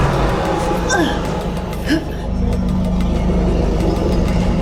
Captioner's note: dramatic music; Luna grunting